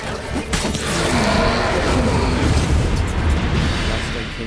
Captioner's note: wraith howls